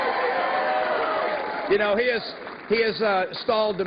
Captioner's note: cheers and applause